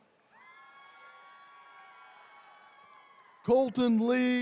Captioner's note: attendees cheering